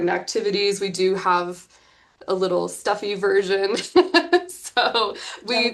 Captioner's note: chuckles